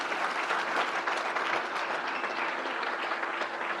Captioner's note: crowd applauds